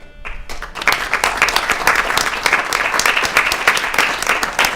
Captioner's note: applause